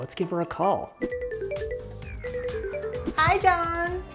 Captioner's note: phone rings